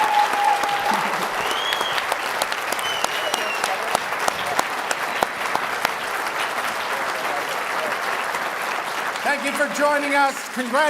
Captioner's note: cheering and Applause